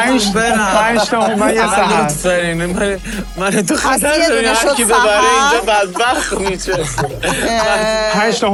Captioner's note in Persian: خنده